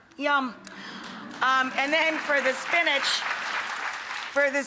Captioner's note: audience cheering